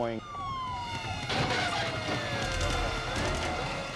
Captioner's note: siren wailing; car screeching